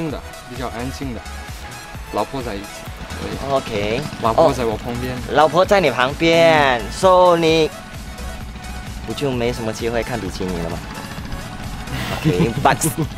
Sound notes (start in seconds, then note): 11.9 sigh